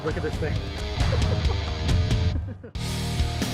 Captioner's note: laughter; rock musical flourish